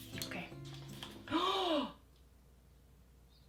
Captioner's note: gasps